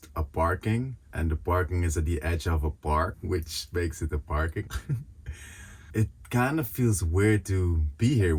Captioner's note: giggles